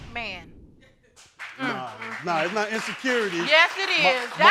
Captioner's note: crowd applauds